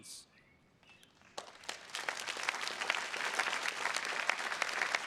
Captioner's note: attendees clapping